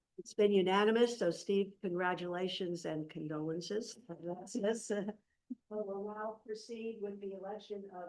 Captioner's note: laughs